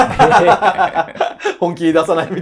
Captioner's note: laughing